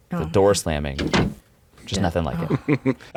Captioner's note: door thuds